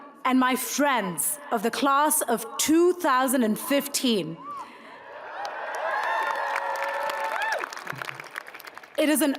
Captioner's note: crowd claps